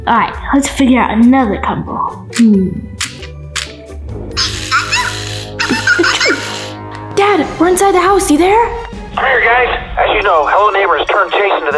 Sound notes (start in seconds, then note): 2.4 clicking